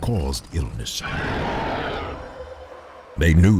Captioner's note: monster roaring